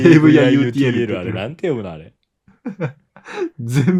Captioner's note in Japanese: 笑い